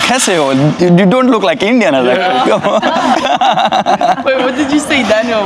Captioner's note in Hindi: हंसी